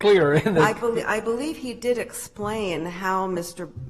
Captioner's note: laughter